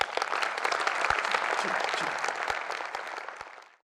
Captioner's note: audience applauds